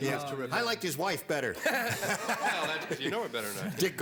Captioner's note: laughter